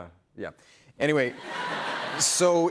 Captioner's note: laughter